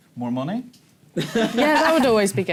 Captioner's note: laughter